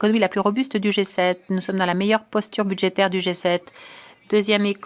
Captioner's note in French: voix de l'interprète